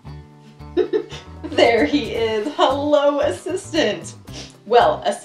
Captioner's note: laughs